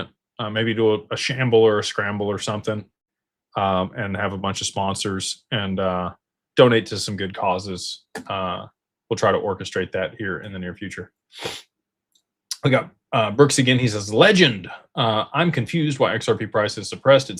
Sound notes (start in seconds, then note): 12.2 snorts